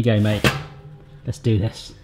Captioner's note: oven tray clanging